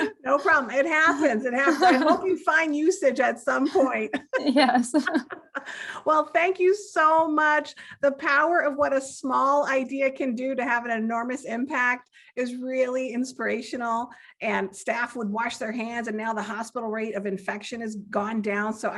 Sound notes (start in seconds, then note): 3.7 giggling